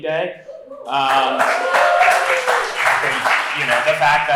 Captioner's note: applause